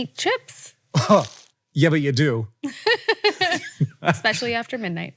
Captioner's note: Rachel and Hank laugh